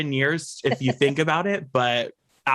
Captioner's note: laughs